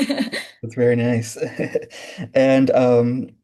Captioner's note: laughing